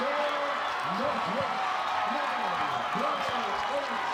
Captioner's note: crowd cheers